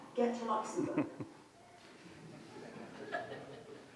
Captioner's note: laugh